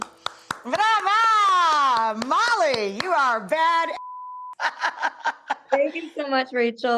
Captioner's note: applauding; beep; laughing